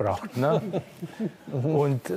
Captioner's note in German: Leichtes Lachen